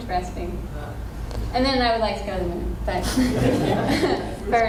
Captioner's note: laughter